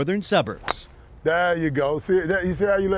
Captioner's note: sound of club hitting the ball